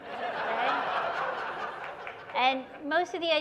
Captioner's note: laughter